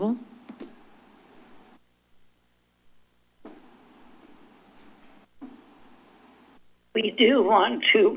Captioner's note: silence